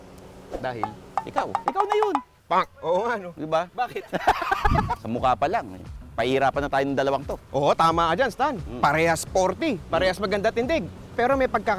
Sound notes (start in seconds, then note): 3.8 laughs